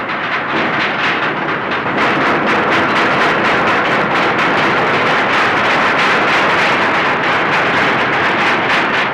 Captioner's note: clattering and banging